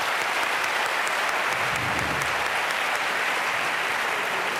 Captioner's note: applause